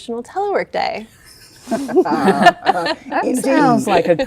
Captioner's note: all laughing